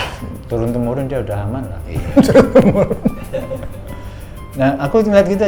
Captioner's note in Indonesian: tertawa